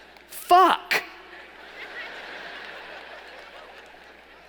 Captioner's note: laughing